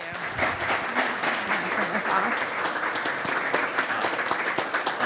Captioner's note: applause